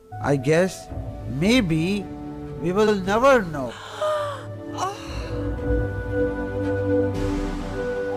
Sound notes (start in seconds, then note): 3.7 Cleo gasping